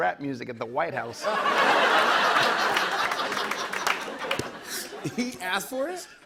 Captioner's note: laughter